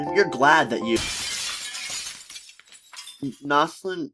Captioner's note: shatter SFX